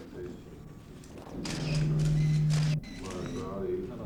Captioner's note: microphone hum